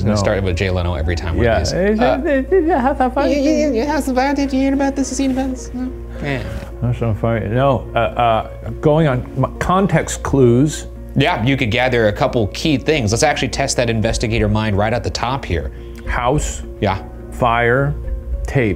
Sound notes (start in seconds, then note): 2.1 mock mumbling